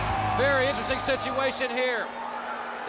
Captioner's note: bell ringing